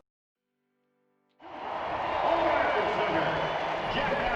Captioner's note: crowd cheering